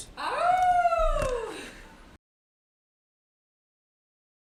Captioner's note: woman howls